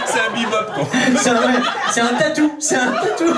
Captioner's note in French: rires public